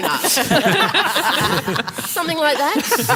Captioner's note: laughter